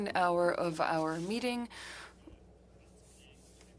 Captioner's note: speaking French